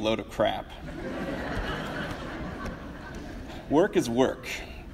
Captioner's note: audience laughs loudly